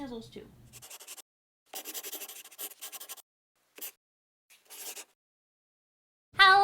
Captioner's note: the sound of a pen scratching